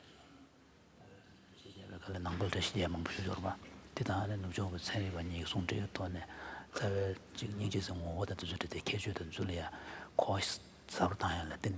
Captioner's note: foreign Language